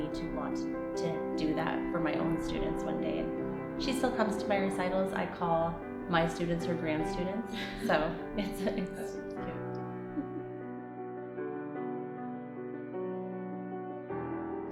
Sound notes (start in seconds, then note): 10.0 laughter; 10.2 piano continues